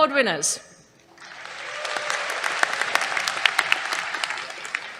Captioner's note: applause